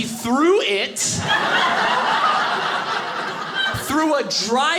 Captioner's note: audience laughing